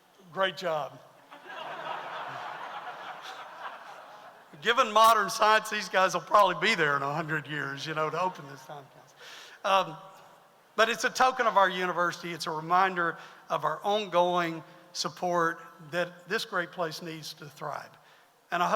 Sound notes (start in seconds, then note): 1.2 audience laughs